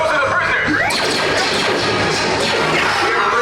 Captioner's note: numerous shots fired